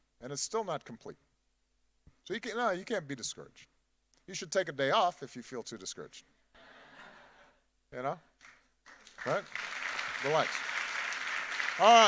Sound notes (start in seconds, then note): 6.8 audience laughing; 8.8 audience applauding